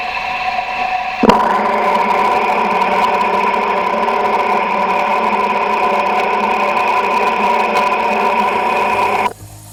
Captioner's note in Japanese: 聴診器の音